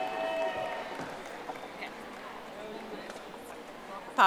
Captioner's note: audience applauding